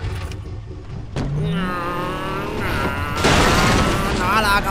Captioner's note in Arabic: مزيد من الهمهمات; يهين نفسه وهو يحاول تقليد أصوات السيارة